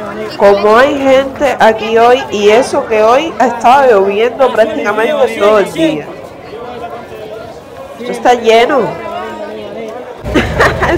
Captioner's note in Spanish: risas